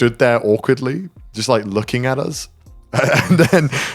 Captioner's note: chuckles